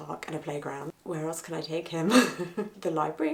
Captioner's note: chuckling